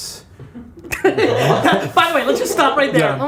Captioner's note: laughter